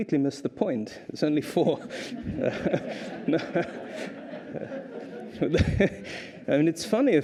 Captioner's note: laughter; laughter